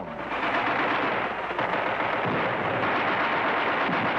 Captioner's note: guns firing